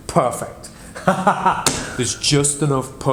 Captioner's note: laughs